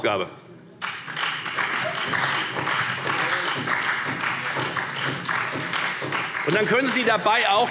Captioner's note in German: Beifall Freie Demokraten und SPD